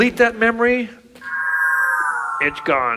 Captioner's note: whooshes